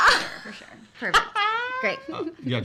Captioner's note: laughing